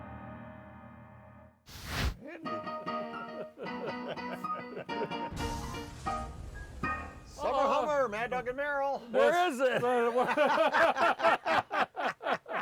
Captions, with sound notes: (lively keyboard music) (laughing) - Summer Hummer, Mad Dog and Merrill. - Where is it? (laughing)